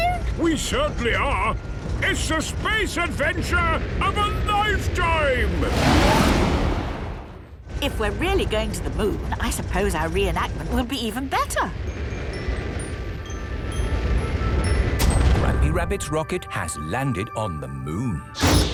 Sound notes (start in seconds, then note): 12.1 rocket thrusting